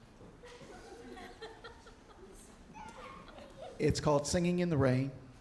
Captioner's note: audience chuckling